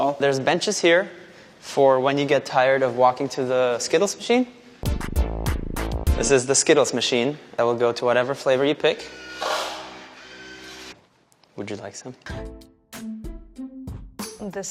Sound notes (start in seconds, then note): 8.7 machine whirring; 12.3 soft upbeat music